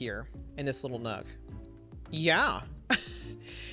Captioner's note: chuckles